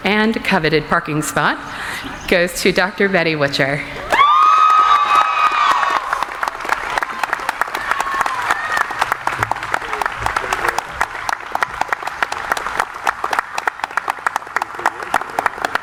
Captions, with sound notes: and coveted parking spot goes to Dr. Betty Witcher. (cheering) (audience applauding)